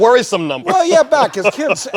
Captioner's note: chuckles